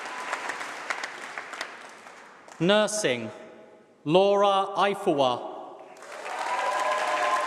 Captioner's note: applause; applause